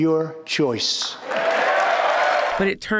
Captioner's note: cheering and applause